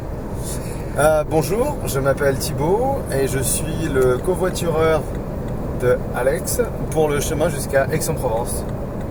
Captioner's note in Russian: на французском